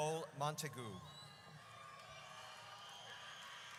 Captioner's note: audience cheers